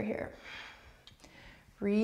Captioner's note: breaths